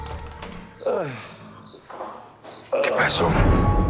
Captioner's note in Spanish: Quejidos